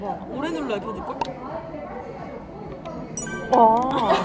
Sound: click

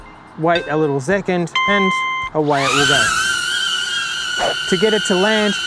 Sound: drone propeller noise

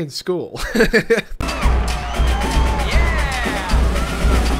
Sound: laughs

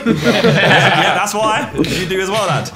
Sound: laughs

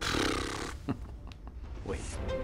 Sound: chuckling

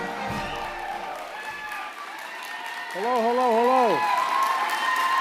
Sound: applause

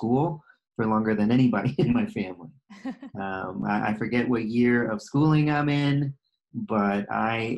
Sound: laughter

